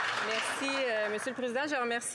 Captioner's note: applause